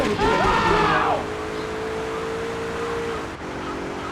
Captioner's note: car engine roaring